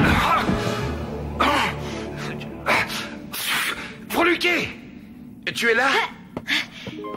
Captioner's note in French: tousse